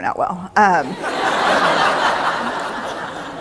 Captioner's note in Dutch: Gelach